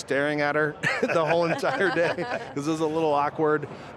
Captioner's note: all laugh